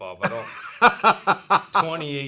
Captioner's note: laughs